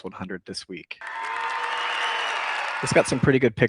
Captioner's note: cheering